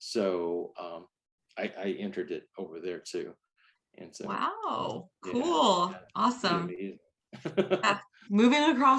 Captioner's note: laughs